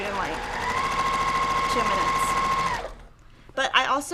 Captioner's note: sewing machine roaring